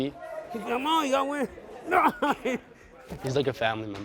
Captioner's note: groaning